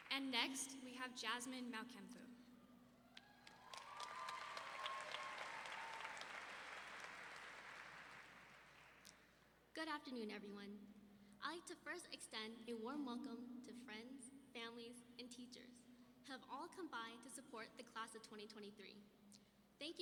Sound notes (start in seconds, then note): 3.0 audience cheering